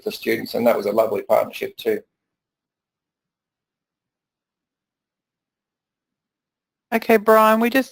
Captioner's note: pause